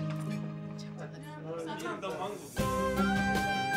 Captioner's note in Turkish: konuşmalar